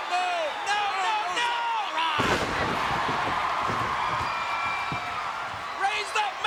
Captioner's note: crowd cheering